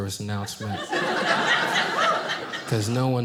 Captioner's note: audience laughing